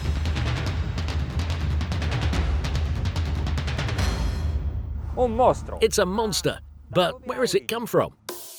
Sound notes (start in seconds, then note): 5.3 speaking foreign language